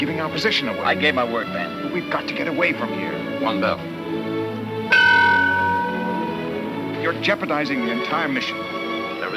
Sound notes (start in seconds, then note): 4.9 bell rings